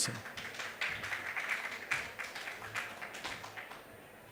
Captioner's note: audience applauds